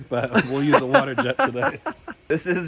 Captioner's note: laughs